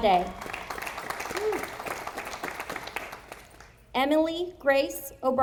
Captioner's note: audience applauding